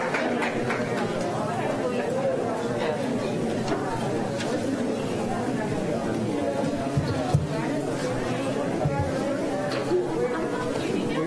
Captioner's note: applause